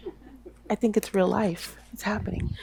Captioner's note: audience member chuckles